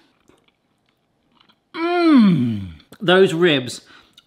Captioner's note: munching